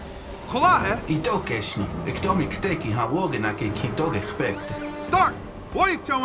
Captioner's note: Black Widow speaks in Lakota; Captain America speaks in Lakota; Iron Man speaks in Lakota; Captain America speaks in Lakota